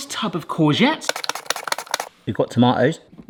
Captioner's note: tomato scrapping